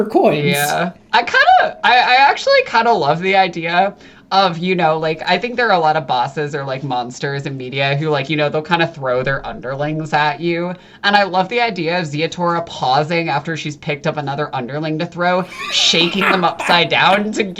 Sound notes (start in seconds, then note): 12.0 starts REALLY laughing; 15.4 starts laughing